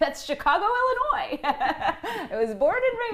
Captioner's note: laughter